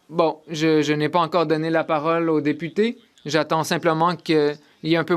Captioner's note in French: voix de l'interprète